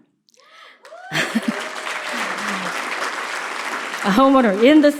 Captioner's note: cheers and applause